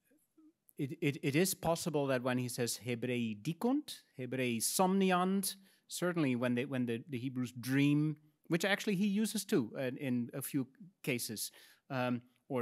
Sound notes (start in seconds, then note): 2.5 speaks in Latin